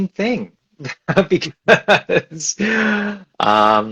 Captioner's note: laughs